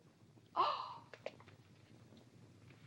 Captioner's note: exasperated tone; Katherine gasps